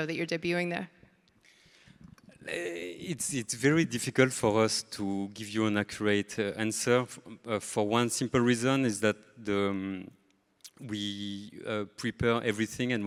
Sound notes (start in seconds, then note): none